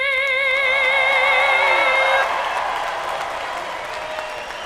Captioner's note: cheering